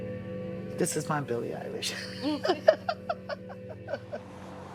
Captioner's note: laughs